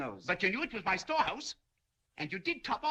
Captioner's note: none